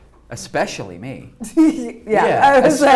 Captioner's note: laughs